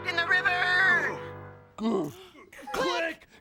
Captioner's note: both gasp